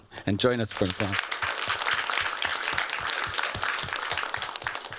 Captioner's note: applause